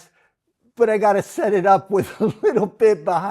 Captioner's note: laughs